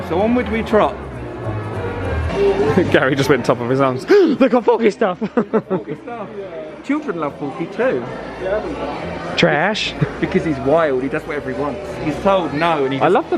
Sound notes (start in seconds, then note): 0.0 choral music; 4.1 sighs; 5.2 laughing